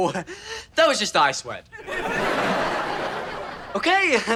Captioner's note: audience laughter